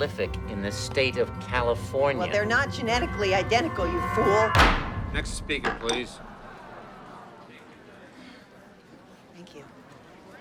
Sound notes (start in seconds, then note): 4.5 gavel bangs; 6.3 crowding grumbling